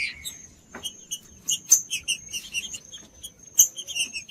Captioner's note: trinca ferro cantando